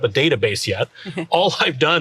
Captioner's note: chuckles